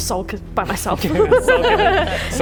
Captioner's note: laughing